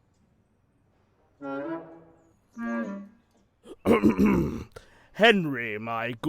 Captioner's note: gordon clears throat